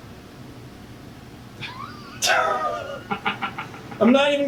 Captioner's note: laughs